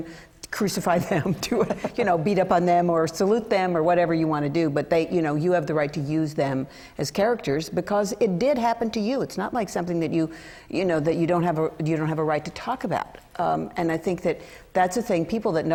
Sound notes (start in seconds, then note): 1.2 laughter